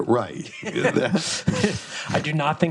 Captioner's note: both laughs